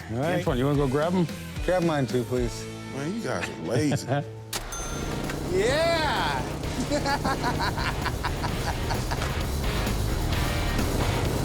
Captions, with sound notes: Antoine, you want to go grab them? Grab mine too, please. Man, you guys are lazy. [cash register dings] Yeah! [laughs]